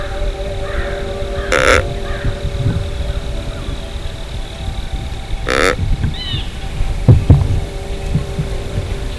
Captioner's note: sound of grunt call